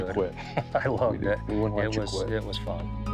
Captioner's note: laughs